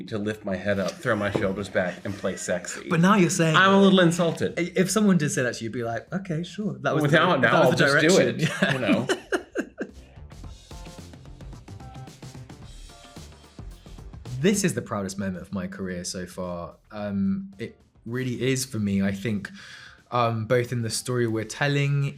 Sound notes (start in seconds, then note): 8.2 Ben chuckling; 10.9 upbeat music